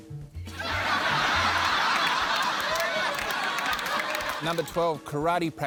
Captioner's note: laughter